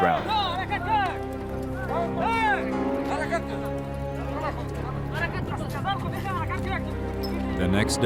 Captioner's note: people speaking in foreign language